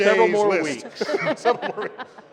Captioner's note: laughter